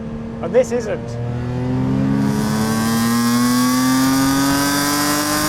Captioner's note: car engine revving